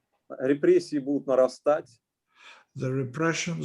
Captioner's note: speaking Russian language